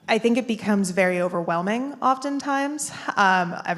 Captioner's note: none